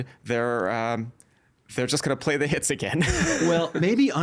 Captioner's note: chuckling